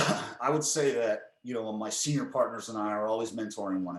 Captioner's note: coughs